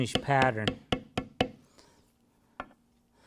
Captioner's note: tapping